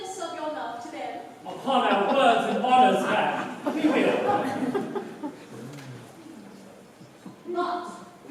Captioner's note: laughter